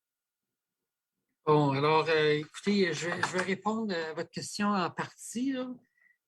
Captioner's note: speaking French